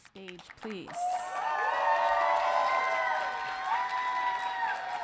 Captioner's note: audience cheering